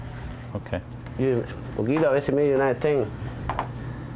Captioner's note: speaking spanish